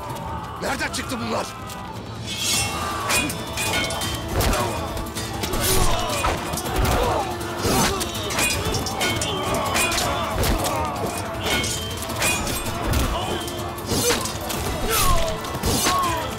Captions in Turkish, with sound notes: Nereden çıktı bunlar? (Gerilim müziği) (İnliyor)